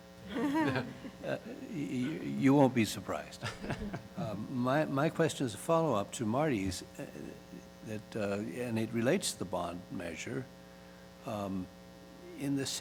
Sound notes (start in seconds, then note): 3.4 laughter